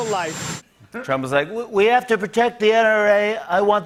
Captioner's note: As Trump